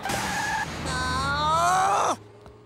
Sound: groaning

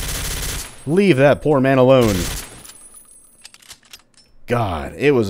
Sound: rat-a-tat

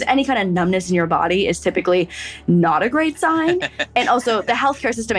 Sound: laughs

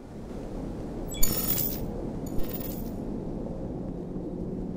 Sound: electronic beeps

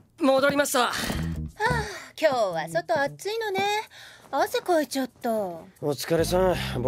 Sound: sighs

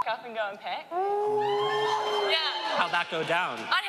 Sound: man exclaiming

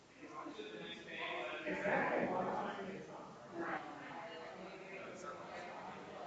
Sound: people chattering distantly continues

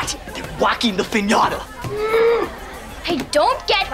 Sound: gasping

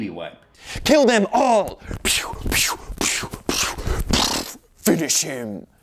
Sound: makes gun noises with his mouth

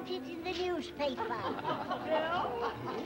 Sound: crowd laughs

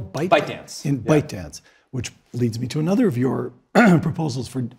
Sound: cough

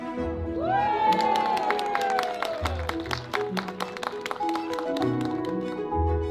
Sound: crowd cheers!

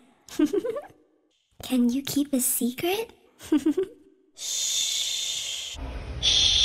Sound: giggles

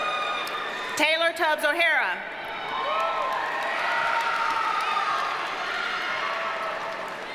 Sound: audience cheers and applauds

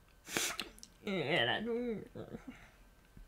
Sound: sniff; grumbling

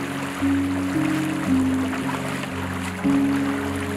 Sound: footsteps splashing

